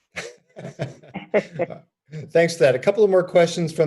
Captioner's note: laughter